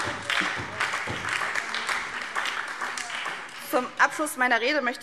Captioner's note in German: Beifall SPD